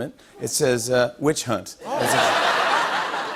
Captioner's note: laughter